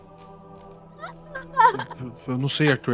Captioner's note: laughs and cries